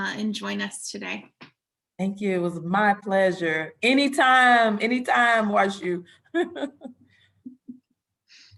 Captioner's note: chuckling